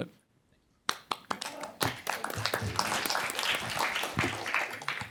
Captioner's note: applause